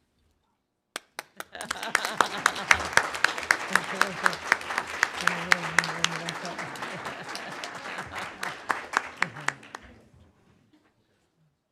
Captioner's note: applause